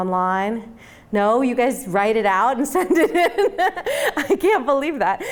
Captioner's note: laughing